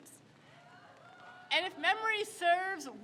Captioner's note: crowd cheers